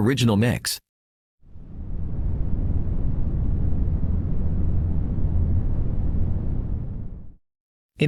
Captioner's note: volcano Rumble